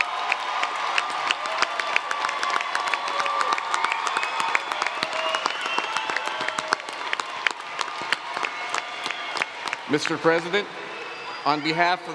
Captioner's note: cheers and Applause